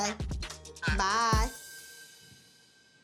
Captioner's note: on phone